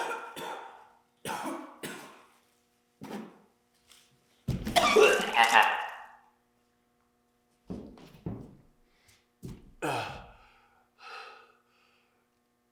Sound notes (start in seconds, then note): 0.0 Jacob coughing; 4.7 Jacob vomiting; 9.8 Jacob groans